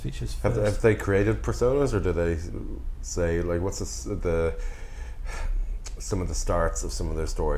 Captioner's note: sigh